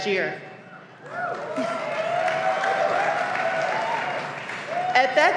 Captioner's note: clapping